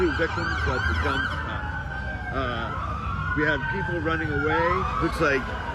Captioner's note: siren wails